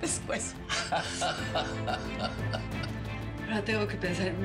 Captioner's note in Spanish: Risas